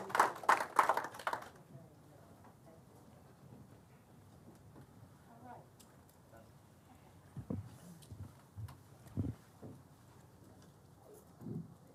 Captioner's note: applause